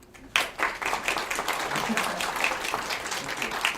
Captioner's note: attendees clapping loudly